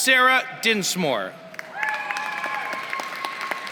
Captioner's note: applause